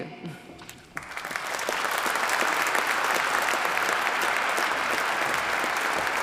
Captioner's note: applause